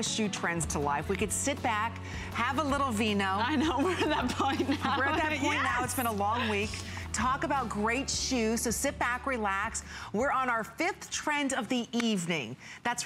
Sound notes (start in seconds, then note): 3.4 laughter